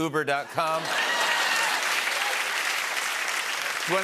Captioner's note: laughter and applause